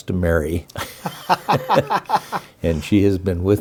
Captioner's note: laughs